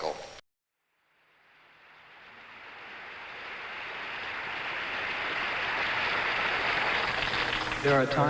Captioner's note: crescendo audience applause